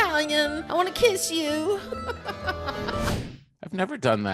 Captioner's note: laughing